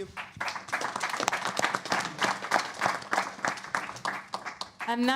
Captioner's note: applause